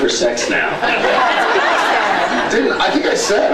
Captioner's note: laughs